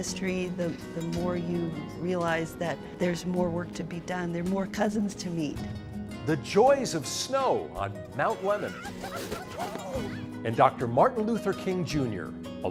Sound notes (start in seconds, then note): 8.3 laughing